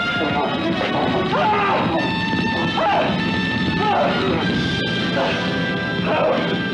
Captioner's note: screaming; fire crackling